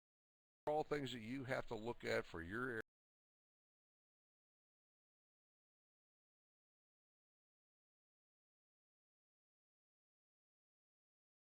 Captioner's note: audio drops